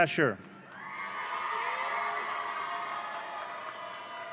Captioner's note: audience cheering